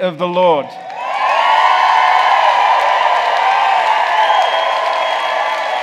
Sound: congregation applauding

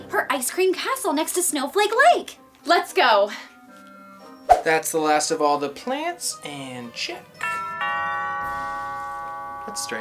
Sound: doorbell

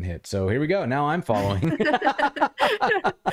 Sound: laughter

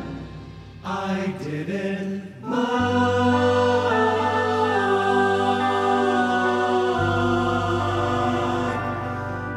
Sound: aahs in the background

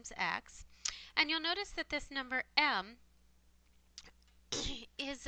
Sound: cough

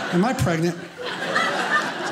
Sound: audience laughing

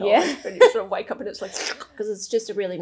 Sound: slurps

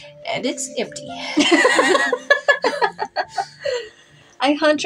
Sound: laugh

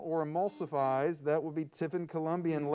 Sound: buzzer sounds

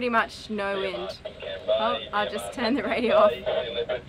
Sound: radio speaking

